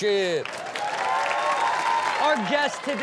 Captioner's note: audience cheers